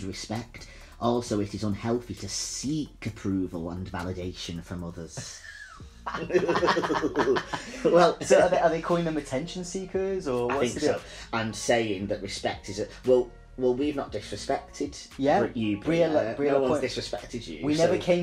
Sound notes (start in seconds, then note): 5.3 both laugh